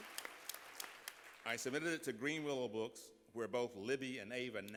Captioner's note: applause